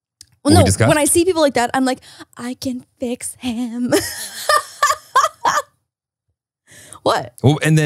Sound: laughs

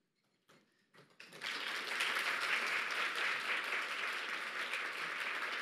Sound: audience applauding

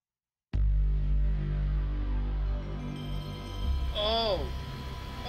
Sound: PlayStation startup with broken ass speakers

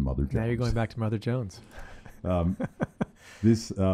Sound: laughs

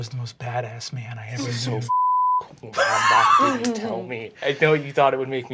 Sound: beeping

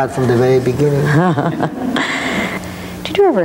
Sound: laughing

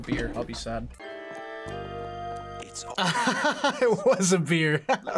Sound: laughs

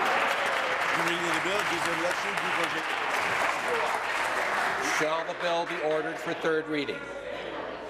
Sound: applause

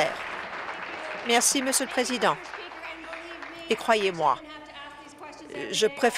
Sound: applause

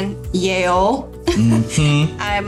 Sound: laughing

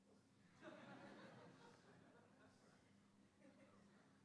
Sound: laughing

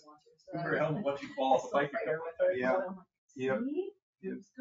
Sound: people chatter

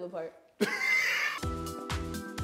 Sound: laughs

